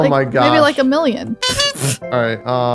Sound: sputters

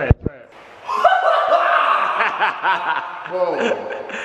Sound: laughing

